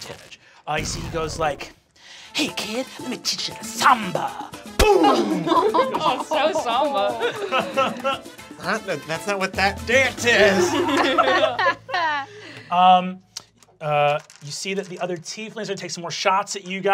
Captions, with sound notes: So he goes like, hey kid, let me teach you to samba. Boom! (laughing) - Oh, so samba. - That's not what that dance is! (laughing) - You see that the other tieflings are gonna take some more shots at you guys,